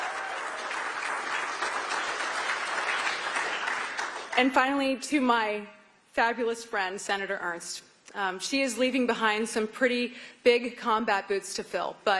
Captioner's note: applause